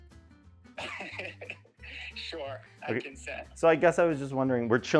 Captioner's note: laughs